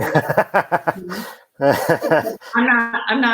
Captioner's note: laughs